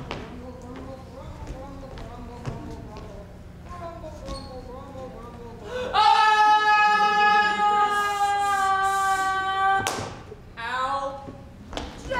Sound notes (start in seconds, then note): 5.7 men scream; 9.8 hand smacks